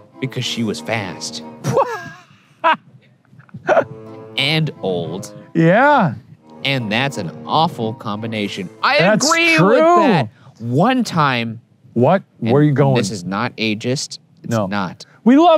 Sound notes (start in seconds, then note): 1.6 laughing